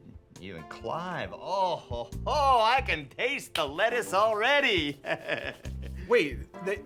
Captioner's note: laughs